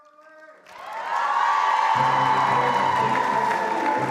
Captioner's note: all cheering and applauding; lively orchestral music